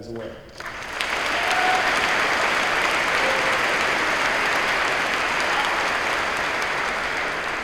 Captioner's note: applause